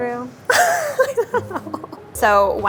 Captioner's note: laughs